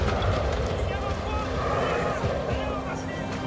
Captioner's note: guards exclaiming in Russian